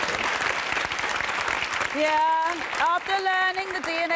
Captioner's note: crowd applauding